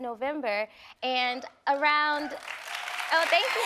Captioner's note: audience applauding; audience cheering